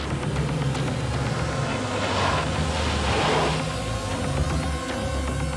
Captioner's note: car engine revving; dramatic music